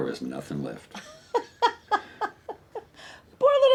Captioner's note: Mrs. McDonald laughs